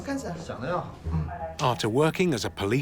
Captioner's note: speaking Tibetan